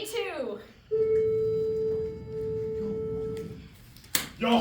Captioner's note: bell rings